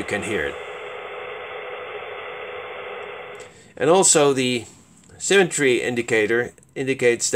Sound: digital noise

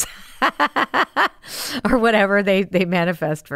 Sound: laughs

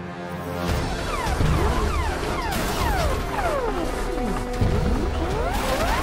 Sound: metal crunching; sirens blaring; booming thud

